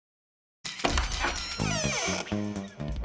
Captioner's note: door creaks open